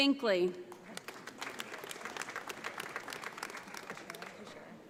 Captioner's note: audience applauds